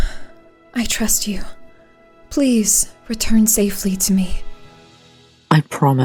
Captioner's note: deep breath